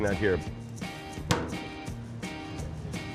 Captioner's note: lid slams